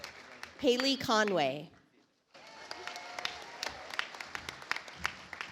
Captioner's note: audience applauds